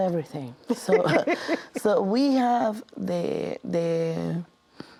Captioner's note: laughs